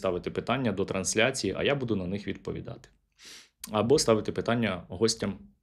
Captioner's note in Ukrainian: сопіння